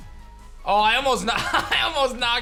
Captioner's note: chuckles